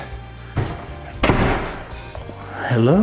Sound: door closes

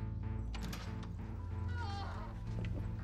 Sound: woman groans

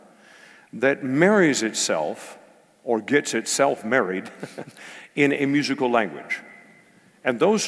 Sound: laugh

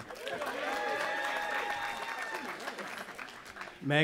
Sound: cheering

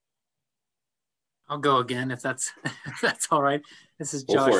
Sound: laughs

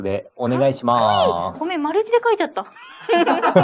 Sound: laughs

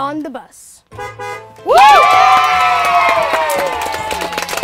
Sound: horn honks and cheers

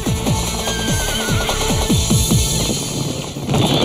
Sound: horse whinnying; horses galloping

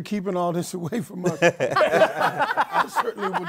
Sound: laughter

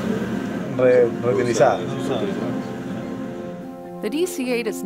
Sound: responds in Spanish

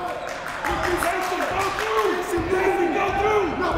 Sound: clapping

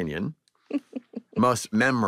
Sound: chuckles

